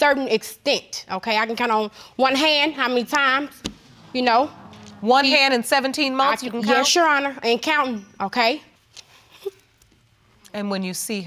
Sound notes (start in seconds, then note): 8.5 chuckles